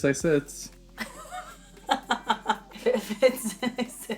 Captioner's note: laughing